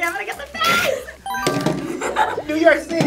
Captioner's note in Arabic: قرع الجرس